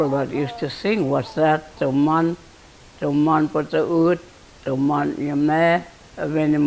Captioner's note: speaking in foreign language